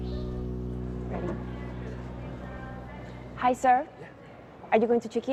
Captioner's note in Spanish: Bullicio